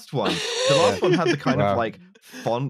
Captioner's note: laughs